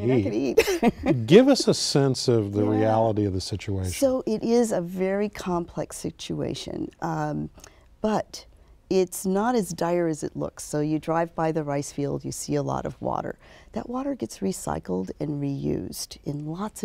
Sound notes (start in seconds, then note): 1.3 laughs